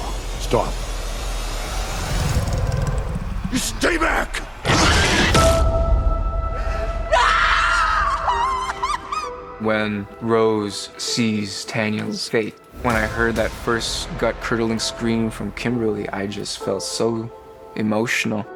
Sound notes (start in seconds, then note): 2.0 growls; 4.5 roars; 6.6 sobs; 7.0 screams